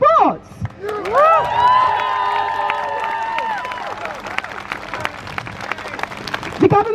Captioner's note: crowd cheers